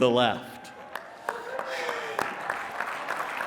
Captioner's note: applause and cheering